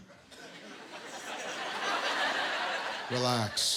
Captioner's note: laughter